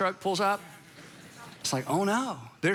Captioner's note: congregation laughs